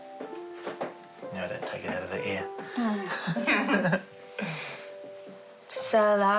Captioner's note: both chuckle